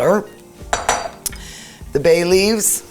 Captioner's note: cutlery clattering